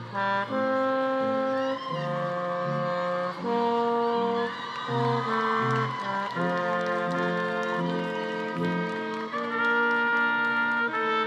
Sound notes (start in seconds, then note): 1.5 attendees cheering and applauding